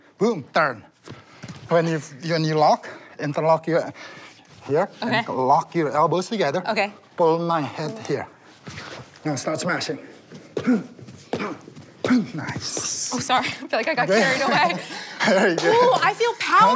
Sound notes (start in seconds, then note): 10.6 grunting